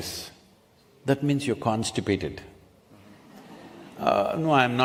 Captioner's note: few laugh